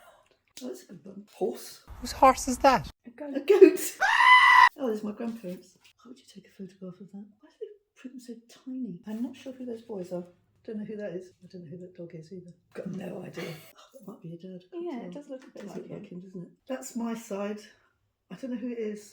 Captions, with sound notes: WHO'S HORSE IS THAT?! [GOAT SCREAM]